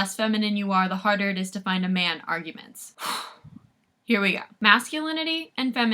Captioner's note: sharp exhale